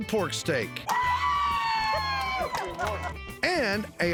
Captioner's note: cheering